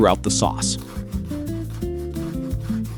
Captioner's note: sizzling